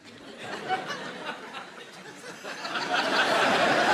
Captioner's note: audience laughing